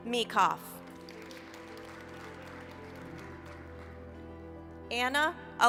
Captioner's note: applause